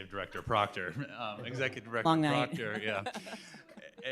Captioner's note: laughs